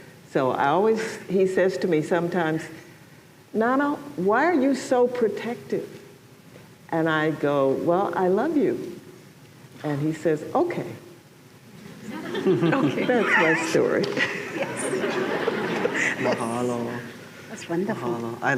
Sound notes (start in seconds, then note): 12.0 laughter